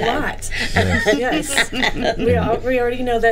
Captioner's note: group laughing